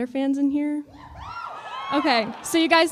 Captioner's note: cheering